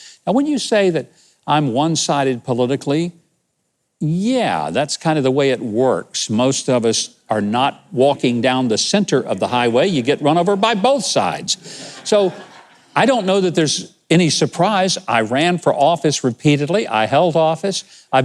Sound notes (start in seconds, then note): 11.6 audience laughing